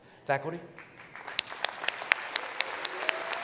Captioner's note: applause